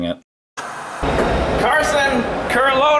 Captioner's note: white noise scratching